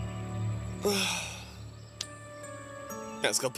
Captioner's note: sighs